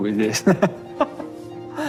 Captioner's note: laughs